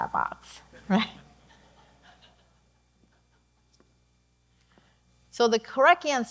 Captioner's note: audience laughing